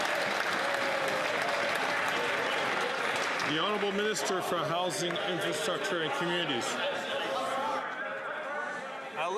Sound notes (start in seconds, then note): 3.9 some Applause